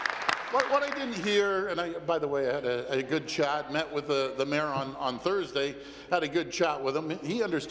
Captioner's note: applause